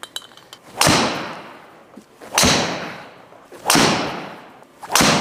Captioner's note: club smacks wall repeatedly